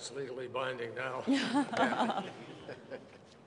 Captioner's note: laughter